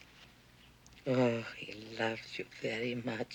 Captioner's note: russian